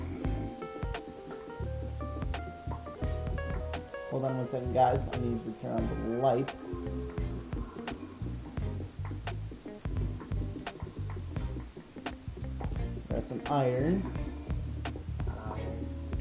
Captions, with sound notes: Hold on one second guys, I need to turn on the light. (Zombie Growl) There's some Iron. "Iron."